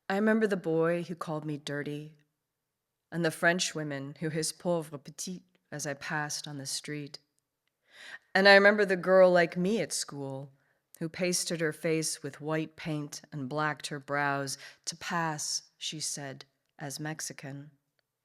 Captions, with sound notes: I remember the boy who called me dirty and the French women who his (speaks in French) as I passed on the street, and I remember the girl like me at school who pasted her face with white paint and blacked her brows to pass, she said, as Mexican.